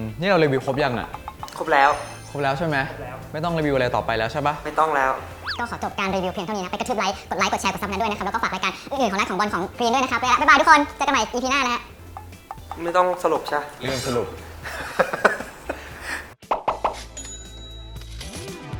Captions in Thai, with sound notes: - นี่เรารีวิวครบยังอะ? - ครบแล้ว ครบแล้วใช่มั้ย? - ไม่ต้องรีวิวอะไรต่อไปแล้วใช่ปะ? - ไม่ต้องแล้ว ก็ขอจบการรีวิวเพียงเท่านี้ ไปกระทืบไลก์ กดไลก์ กดแชร์ กด subscribe ให้ด้วยนะคับ แล้วก็ฝากรายการอื่นๆ ของนัท บอล กรีนด้วยนะครับ ไปละบ๊ายบายทุกคนเจอกันใหม่ EP หน้านะครับ - ไม่ต้องสรุปใช่ปะ? - ลืมสรุป [หัวเราะ]